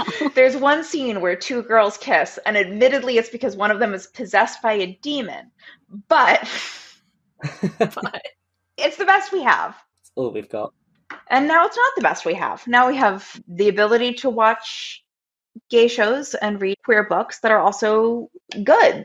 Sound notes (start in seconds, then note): 7.4 laughing; 7.4 laughs